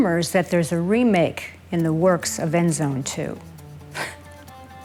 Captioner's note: scoffs